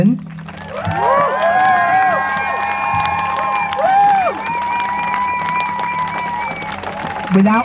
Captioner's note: crowd cheers